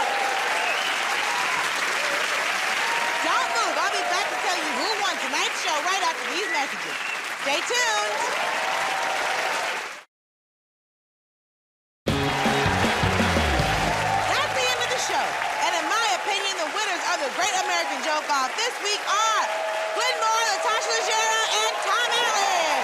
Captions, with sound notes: [ Cheers and applause ] Don't move, I'll be back to tell you who won tonight's show right after these messages. Stay tuned! [ Cheers and applause ] [ Cheers and applause ] That's the end of the show. And in my opinion, the winners of "The Great American Joke Off" this week are -- Glenn Moore, Natasha Leggero, and Tom Allen!